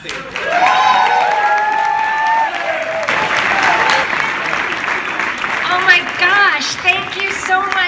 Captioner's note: applause